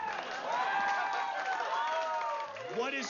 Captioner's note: vítores y aplausos